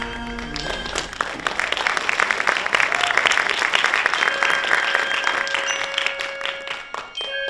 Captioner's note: applause